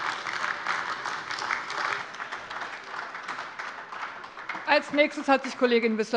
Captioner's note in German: Heiterkeit und Beifall AfD